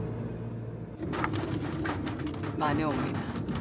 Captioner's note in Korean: 차 지붕에 비 맞는 소리